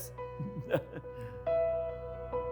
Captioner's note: laughing; tense music